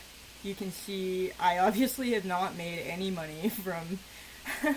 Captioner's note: awkward laughter